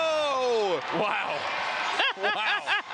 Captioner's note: laughs